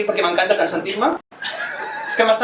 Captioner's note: laughs